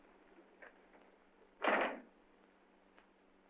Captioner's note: door closes